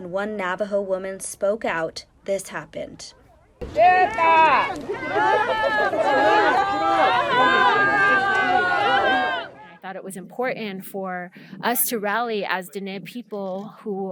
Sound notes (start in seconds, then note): 5.5 shouting